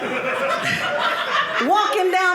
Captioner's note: audience laughing